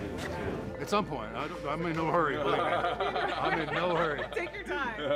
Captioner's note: men laughing